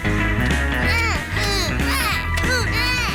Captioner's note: both grunting